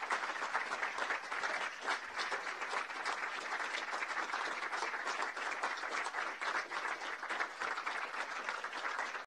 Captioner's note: applause